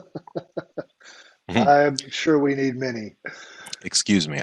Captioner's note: laughs